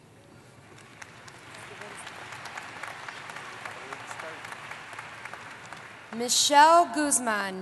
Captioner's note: applause